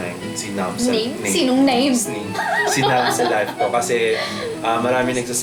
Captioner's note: laughs